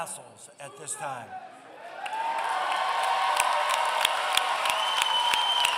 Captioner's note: applause